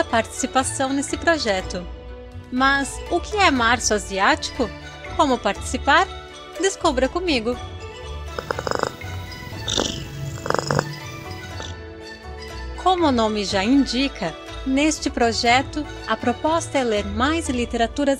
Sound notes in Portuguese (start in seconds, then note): 9.8 ronrom